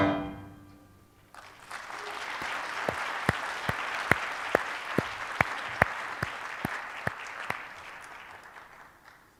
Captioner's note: applause